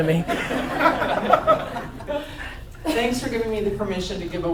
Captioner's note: audience laughing